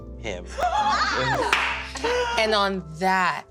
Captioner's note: excited, shocked gasps and laughter; more laughter